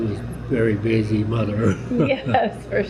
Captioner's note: laughter